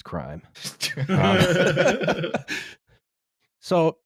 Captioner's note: laughter